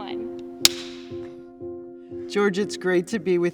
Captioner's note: clapperboard slaps